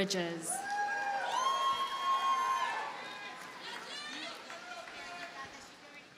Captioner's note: audience cheers and applauds